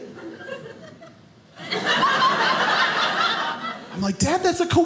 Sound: audience laughing

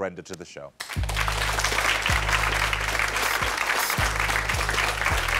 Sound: audience applauding

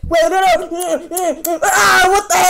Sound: smooching sound

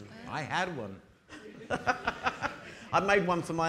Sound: audience laughing

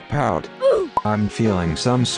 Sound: roblox oof sfx

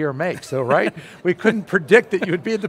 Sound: laughs

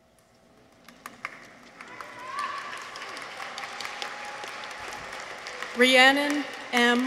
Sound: audience applauds; people cheer

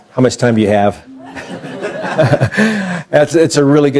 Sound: laughter

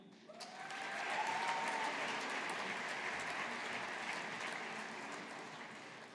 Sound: audience applauding

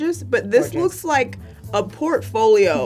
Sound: none

